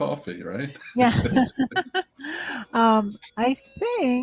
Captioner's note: laughs